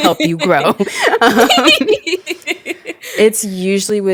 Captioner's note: both laugh